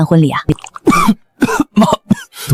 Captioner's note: cough